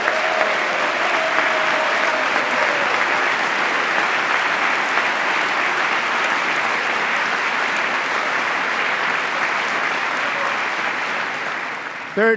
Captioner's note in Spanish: aplauso